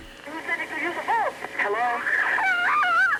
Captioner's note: on phone; sceaming